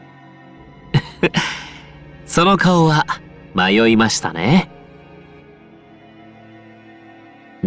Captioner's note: laugh